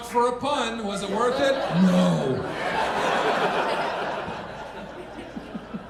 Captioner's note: audience laughing